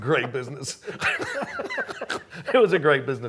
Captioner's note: both laughing